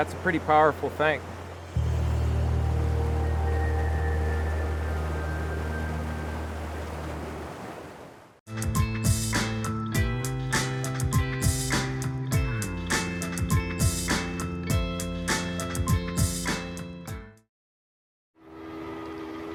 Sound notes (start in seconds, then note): 7.4 tranquil music; 7.4 water rushing; 13.1 upbeat music; 18.1 upbeat music